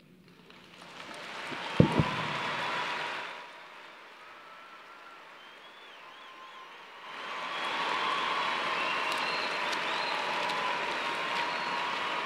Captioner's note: applause